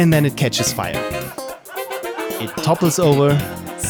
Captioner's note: laughter